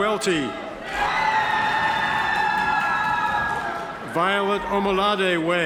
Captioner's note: audience members cheer